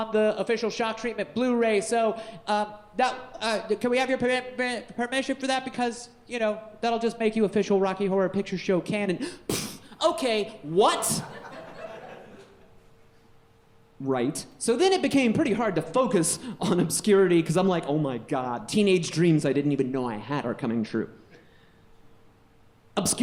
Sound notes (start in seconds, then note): 9.5 puffs; 11.1 audience laughing